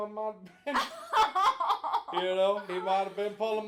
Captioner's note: both laughing